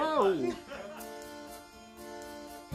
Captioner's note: cast and crew laughing; orchestral music begins